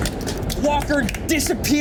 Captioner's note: all clapping